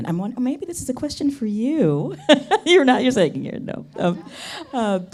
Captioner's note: laughs